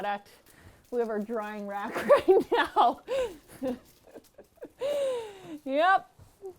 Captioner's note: laughs